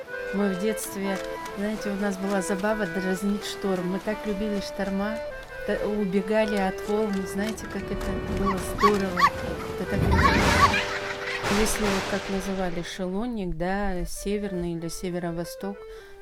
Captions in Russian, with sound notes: Мы в детстве... знаете, у нас была забава - дразнить шторм. Мы так любили шторма, убегали от волн - знаете, как это было здорово! (детский смех) Если это был, как его называли, шелонник - север или северо-восток,